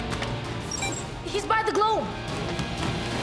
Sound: beep; theme music plays

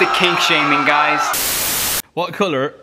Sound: static

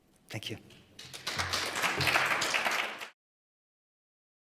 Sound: applause

